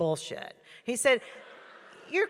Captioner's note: audience laughing